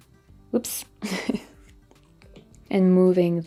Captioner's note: chuckles